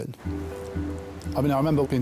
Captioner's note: gentle music; waves roaring